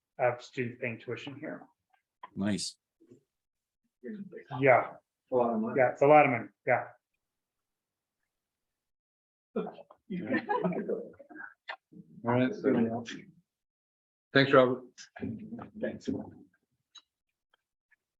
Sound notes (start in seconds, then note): 10.1 members laugh